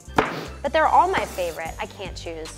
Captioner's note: sniffs